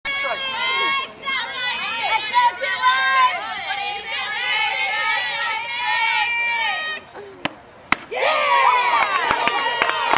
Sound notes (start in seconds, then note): 0.0 crowd cheering throughout